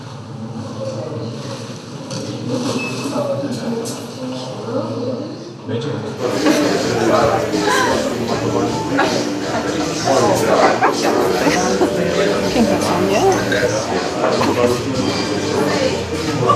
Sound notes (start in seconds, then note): 6.2 laughing